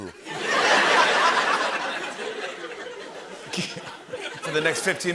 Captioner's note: laughter